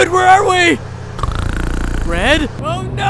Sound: Red snoring

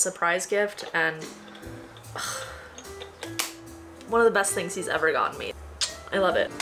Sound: sigh; kiss

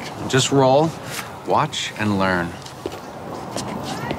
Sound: none

